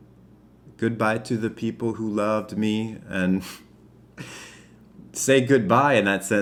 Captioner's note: chuckles